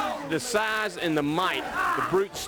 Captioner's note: crowd chatter